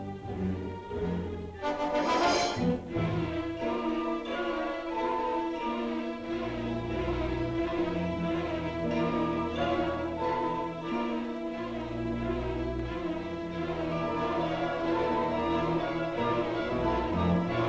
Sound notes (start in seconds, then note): 1.5 dramatic music; 1.9 tank hisses; 3.5 suspenseful music